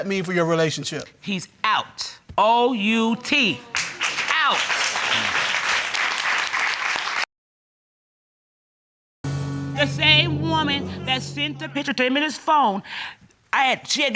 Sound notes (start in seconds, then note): 6.0 audience applauds